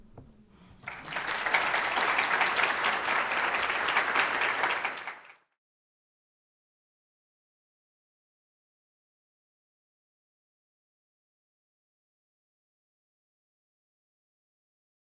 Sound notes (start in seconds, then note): 0.8 audience clapping